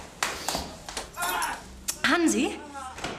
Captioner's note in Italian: Aaah!